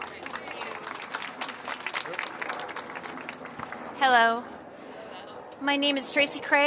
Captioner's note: applause